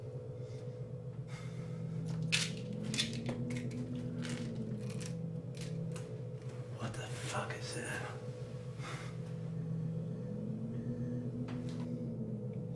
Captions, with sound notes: (pills rattling) What the fuck is that?